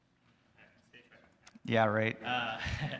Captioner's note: student speaks off-microphone